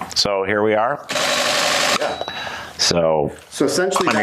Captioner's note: mechanical shutter